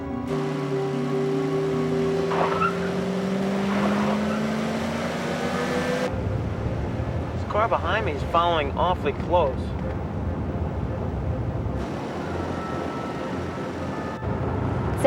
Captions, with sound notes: (eerie music) (tires squealing) - This car behind me is following awfully close.